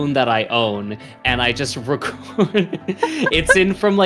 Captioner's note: chuckles; laughs